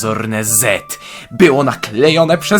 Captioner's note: inhales dramatically